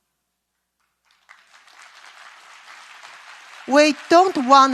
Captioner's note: claps